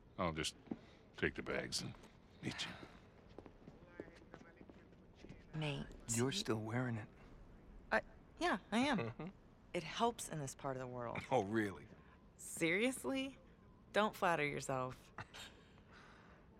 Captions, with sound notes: I’ll just.. take the bags and.. meet ya. Nate... You’re still wearin’ it. Uh, yeah I am. Mmhm. It helps in this part of the world. (laughing) Oh really? Seriously? Don’t flatter yourself. (laugh)